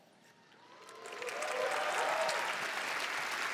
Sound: applause

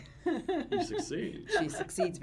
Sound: laughs

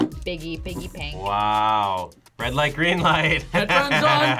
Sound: laughs

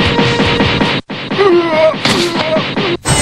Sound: Vega groans in defeat

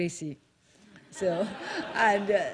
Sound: laughter

